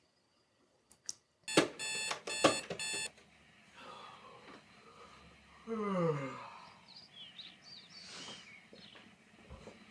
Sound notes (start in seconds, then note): 1.4 alarm tone beeping; 5.6 yawning; 6.5 birds chirping